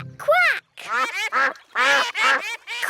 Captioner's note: quacking